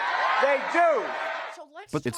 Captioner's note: cheering and applause